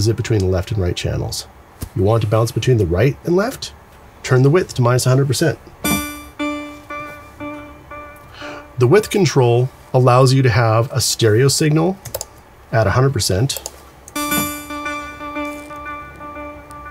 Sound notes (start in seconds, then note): 5.8 echoing; 14.2 echoing